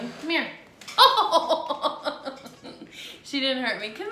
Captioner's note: laughing